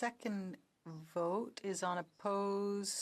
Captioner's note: speaking in French